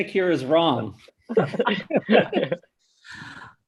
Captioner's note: chuckles